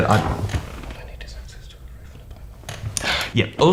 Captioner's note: whispers